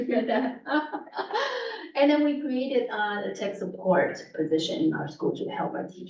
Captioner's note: laughs